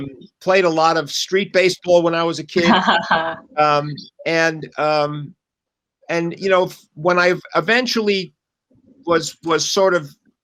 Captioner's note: laughter